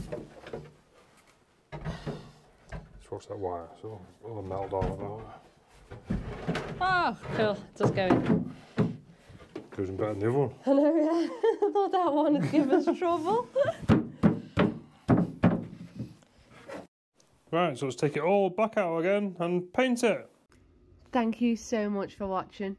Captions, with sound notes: - Let's watch that wire, so it'll be all melded off. - Oh, cool, just going. - It goes in better than the other one. - Oh, yeah, I thought that one would give us trouble. (banging) - Right, so let's take it all back out again and paint it. - Thank you so much for watching.